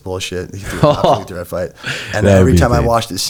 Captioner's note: chuckles